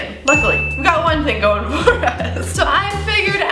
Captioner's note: laughs